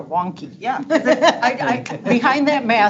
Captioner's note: laughing